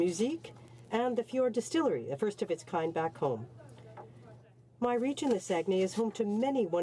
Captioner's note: speaking French